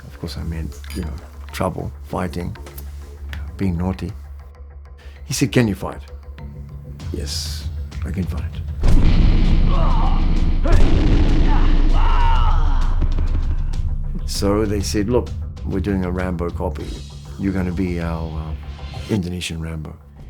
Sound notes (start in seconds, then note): 8.8 sounds of fighting